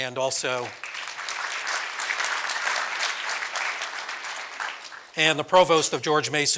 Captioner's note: applause